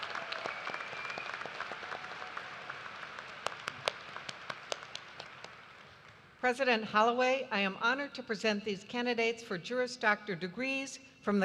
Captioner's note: cheers and applause